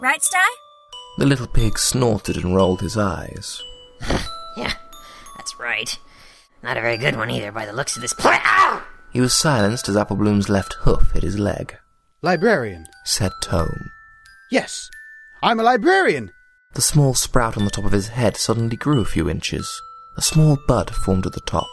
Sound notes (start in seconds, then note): 8.2 grunt of pain